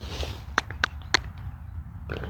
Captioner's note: click, click, click